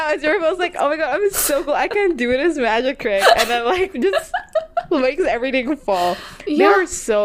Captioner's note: laughing